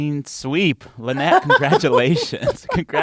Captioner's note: laughter